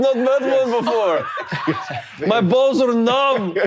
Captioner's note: all laughing